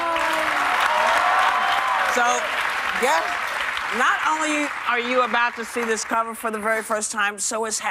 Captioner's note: cheers and applause